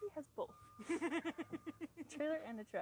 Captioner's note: laughing